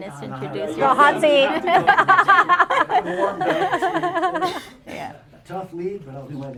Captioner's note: laughter